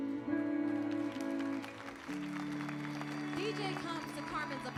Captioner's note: audience clapping